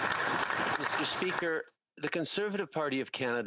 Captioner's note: applause